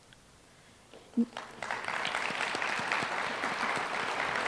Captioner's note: applause